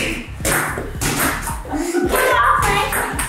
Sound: ping-pong balls hitting

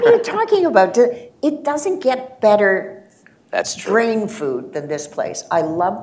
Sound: laughter

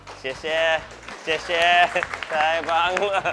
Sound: all applaud

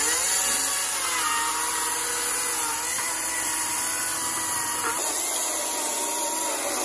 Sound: electric chainsaw sound

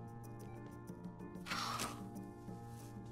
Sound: sighing

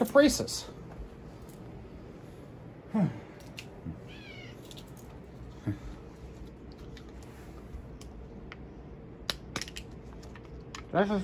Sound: Caprice meows as Ava opens the package

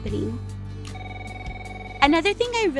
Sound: phone ringing

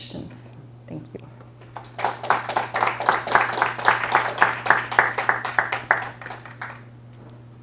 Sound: applause

